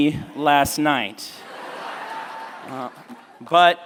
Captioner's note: laughter